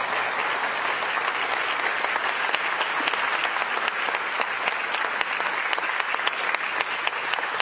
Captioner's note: applause